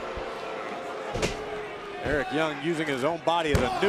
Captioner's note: crowd cheering